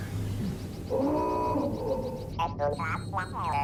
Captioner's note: klaxon siren